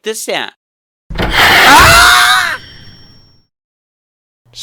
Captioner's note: screams